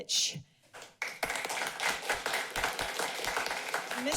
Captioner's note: applauding